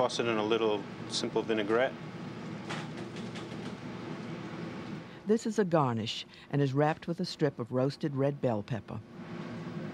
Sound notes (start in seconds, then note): 5.8 voiceover